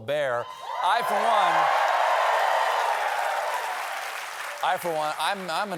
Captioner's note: cheers and applause